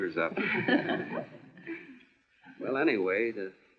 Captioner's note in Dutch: lachend